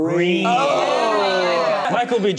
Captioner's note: cast ooooh